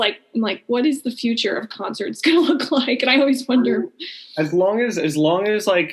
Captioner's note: laughing